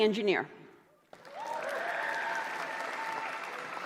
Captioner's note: applause